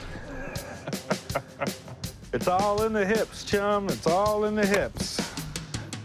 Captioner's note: laughs